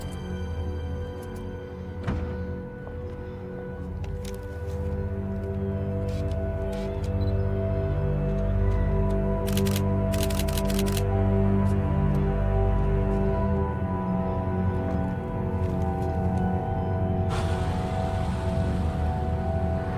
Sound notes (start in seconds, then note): 0.4 tense music continues; 7.2 camera beeping; 9.7 camera shutter clicking; 13.6 tense music continues